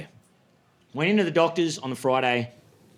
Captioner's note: none